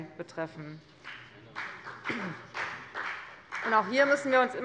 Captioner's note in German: Beifall bei der FDP